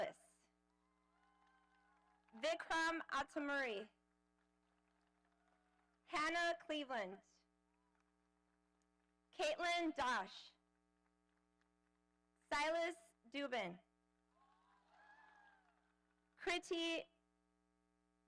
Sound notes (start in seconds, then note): 14.8 audience applauding